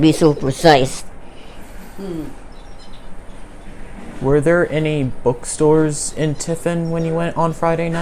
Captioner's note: birds in background